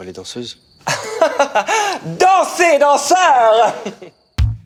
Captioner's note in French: rire